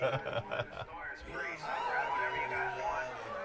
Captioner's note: man laughing; crowd cheering